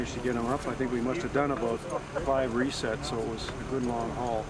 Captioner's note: voiceover